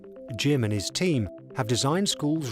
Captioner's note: voiceover